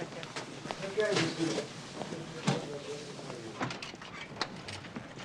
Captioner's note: people chattering in distance